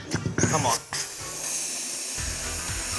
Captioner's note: gas hisses